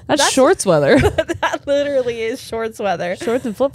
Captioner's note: laughs